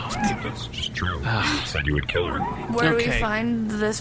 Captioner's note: sighs